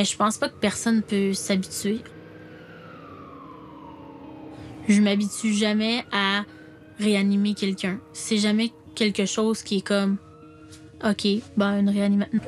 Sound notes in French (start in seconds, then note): 2.4 sirènes